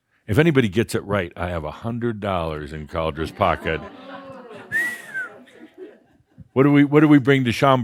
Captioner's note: audience says “Ooh!” and Adamus whistles